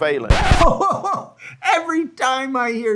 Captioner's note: record scratching; host chuckling